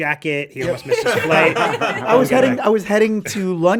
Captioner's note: all laughing